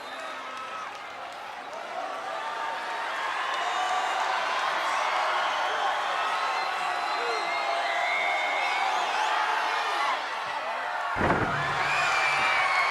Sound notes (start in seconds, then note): 8.9 audience cheering